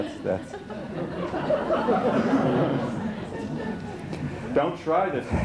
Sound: laughter

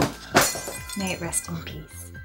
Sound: glass shuttering

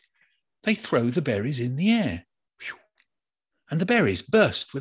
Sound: makes whooshing sound

